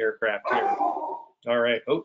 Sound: dog barking

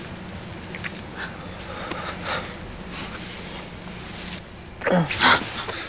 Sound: Edward breathes heavily; Edward grunts; Bella gasps

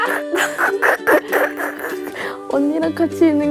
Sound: laughing

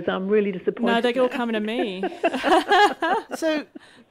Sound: laughter

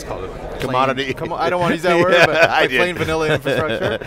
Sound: laughing

